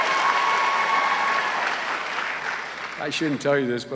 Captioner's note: cheers and applause